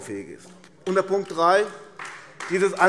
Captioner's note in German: Beifall AfD